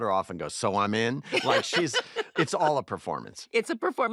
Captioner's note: laughs